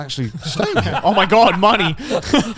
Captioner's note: laughs